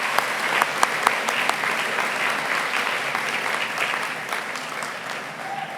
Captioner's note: applause